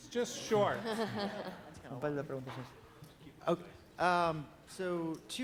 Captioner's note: laugh